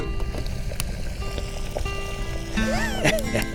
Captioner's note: water boiling